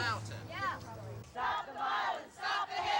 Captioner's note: chanting